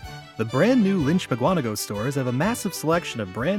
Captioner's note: voiceover